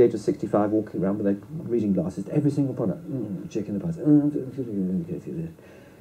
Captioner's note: imitates mumbling